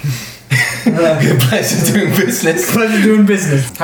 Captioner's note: laughs